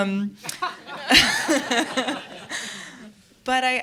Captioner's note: laughter